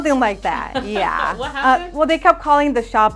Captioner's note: laughs